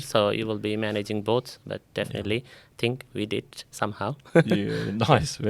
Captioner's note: laughs